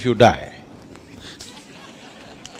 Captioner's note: laughter